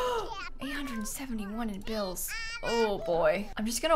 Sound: gasps

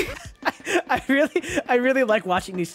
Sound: laughs

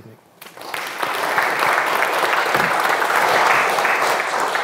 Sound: audience applauds

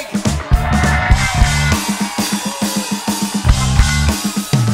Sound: audience cheers

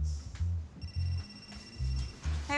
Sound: phone ringing

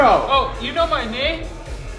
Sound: slurred speech

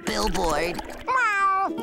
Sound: meowing

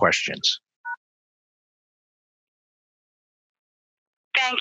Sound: phone beeps

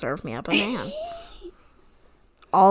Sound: laughs

